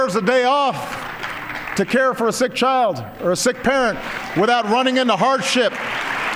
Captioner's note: applause